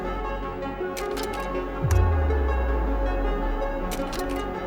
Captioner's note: projector clicking